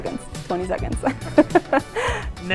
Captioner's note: laughs